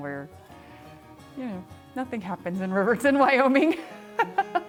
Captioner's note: laughs